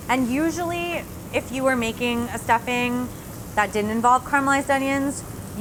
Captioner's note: none